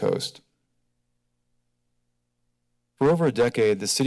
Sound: silence

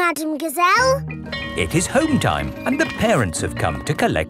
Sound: bell tolling

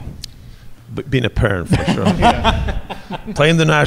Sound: laughs

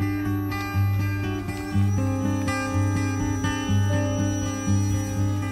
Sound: gentle guitar strumming music; drone whirring

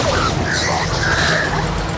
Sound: growling

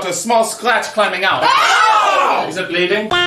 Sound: chorus of disgusted screams

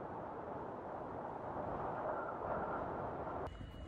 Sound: wind blowing

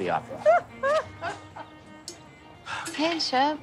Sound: laughs

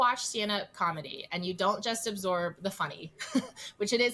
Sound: chuckles

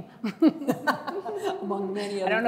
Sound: chuckling

